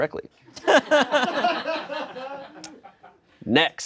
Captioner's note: friends laugh